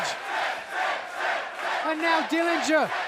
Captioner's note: fans chanting